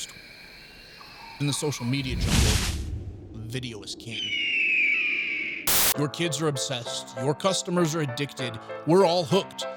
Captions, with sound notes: And the social media jungle, video is king. (screaming) Your kids are obsessed, your customers are addicted. We're all hooked.